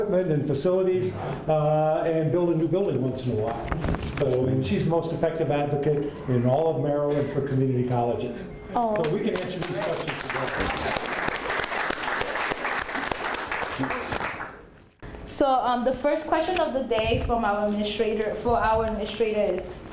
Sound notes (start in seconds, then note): 9.2 applause